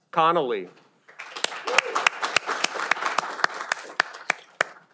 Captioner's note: audience applauding